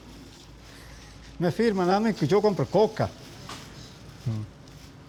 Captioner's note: speaking Spanish